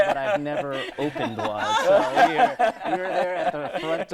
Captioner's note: laughing